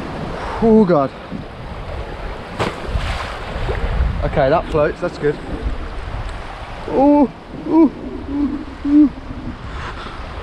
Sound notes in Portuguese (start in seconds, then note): 2.5 splash; 7.6 sons de chimpanzé